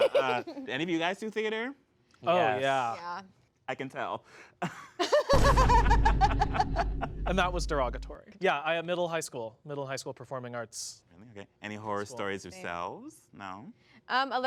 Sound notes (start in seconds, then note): 5.0 everyone laughs